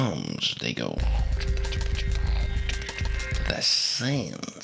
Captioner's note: scary noises